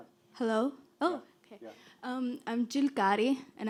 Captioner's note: voiceover